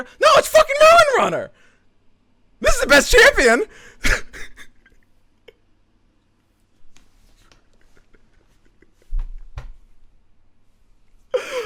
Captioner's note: maniacal laughter; chuckles